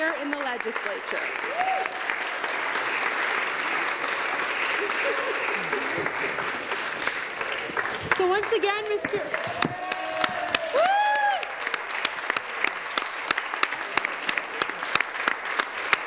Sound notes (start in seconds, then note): 5.2 applause; 14.4 cheering and Applause